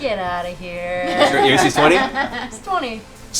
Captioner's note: laughter